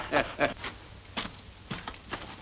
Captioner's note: foot Steps